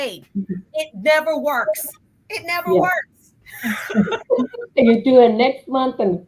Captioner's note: chuckles